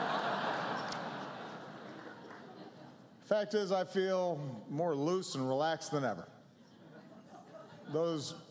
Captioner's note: laughter